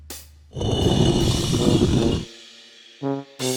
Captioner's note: rock sliding noise